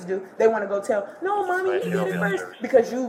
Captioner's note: radio chatter